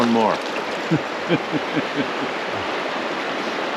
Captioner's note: chuckling; water flowing